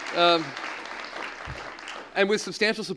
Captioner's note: applause